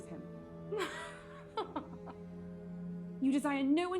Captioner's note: laughing